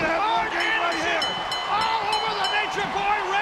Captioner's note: bell chiming